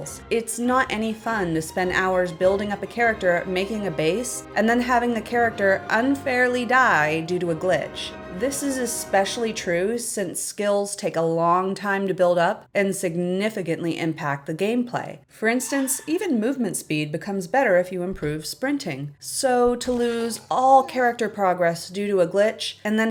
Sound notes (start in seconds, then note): none